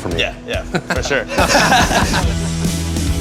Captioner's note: both laugh; energetic rock